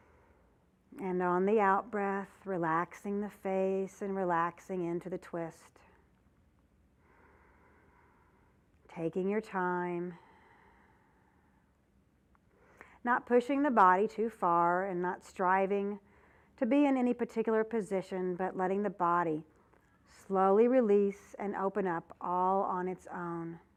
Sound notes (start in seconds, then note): 6.6 breath sound